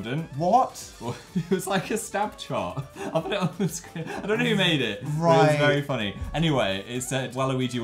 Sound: laughing

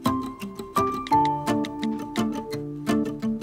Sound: phone key sounds

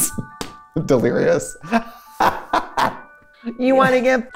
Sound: laughs; laughs

